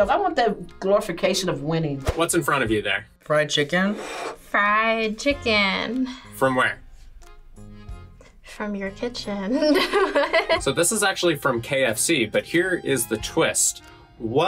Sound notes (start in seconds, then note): 9.5 laughs